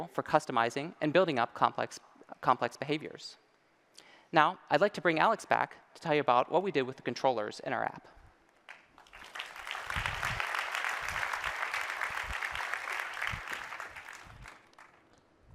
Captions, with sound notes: for customizing and building up complex behaviors. Now I'd like to bring Alex back to tell you what we did with controllers in our app. [ Applause ]